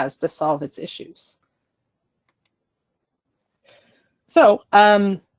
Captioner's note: silence